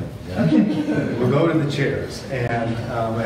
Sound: laughing

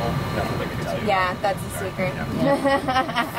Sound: laughs

